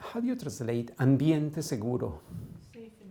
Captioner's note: non-english